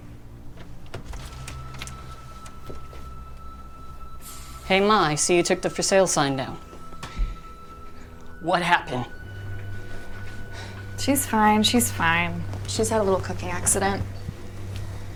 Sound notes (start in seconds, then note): 0.5 door clicks